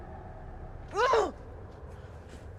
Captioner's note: frustrated grunt